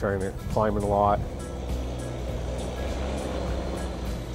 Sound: snow cat passing

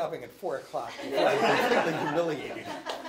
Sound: laughing

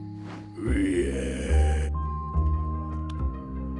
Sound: growls

